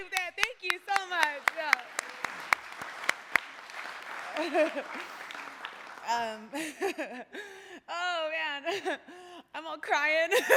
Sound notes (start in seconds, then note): 2.5 applause; 6.4 laughter